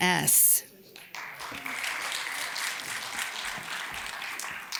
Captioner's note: audience applauds